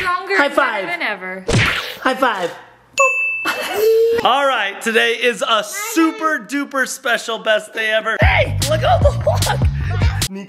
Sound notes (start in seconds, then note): 1.5 smack; 3.6 laughs